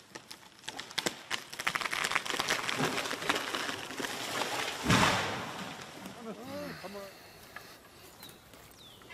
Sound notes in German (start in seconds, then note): 1.0 Knarzen; 6.0 Leise Gesprächsfetzen